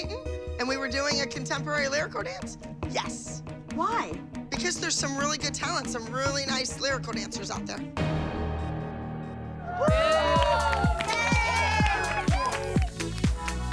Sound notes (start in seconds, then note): 9.6 cheering and applause